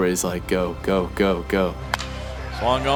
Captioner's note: bat hits ball